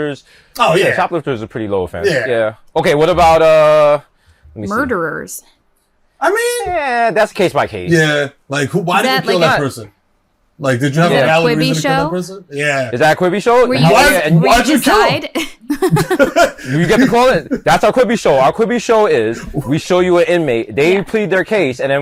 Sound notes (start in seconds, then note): 15.6 all chuckle